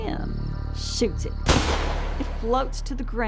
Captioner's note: gunshot